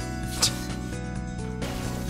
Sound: snort

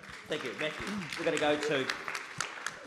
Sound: audience claps

